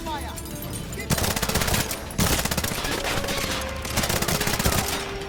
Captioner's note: bullets popping